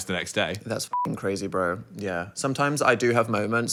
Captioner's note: beep